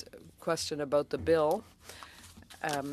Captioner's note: speaking French